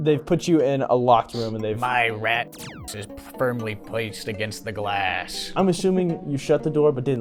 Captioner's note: beam noise